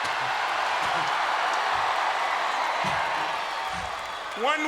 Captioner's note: crowd cheers